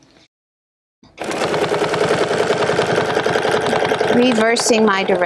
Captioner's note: machine whirring